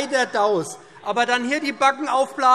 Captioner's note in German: Zurufe